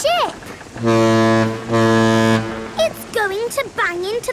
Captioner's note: ship horn blowing